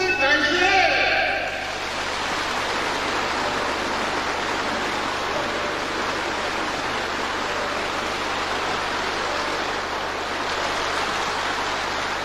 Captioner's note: applause